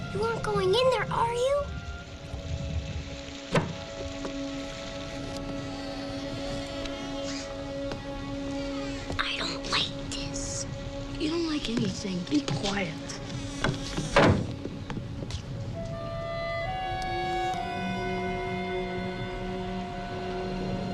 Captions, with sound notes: You aren't going in there, are you? (wood clunks) (hinges creaking) I don't like this. - You don't like anything. Be quiet. (hinges creaking) (door thuds) (high suspenseful music)